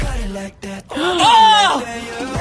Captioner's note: gasps